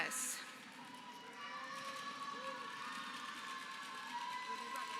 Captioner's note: applause